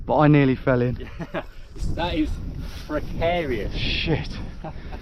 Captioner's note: laughs